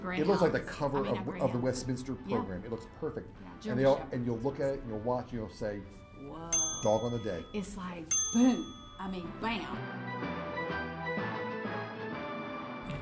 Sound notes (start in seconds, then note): 6.5 bell cling